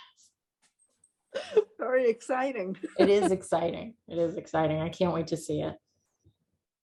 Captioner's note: guest, laughing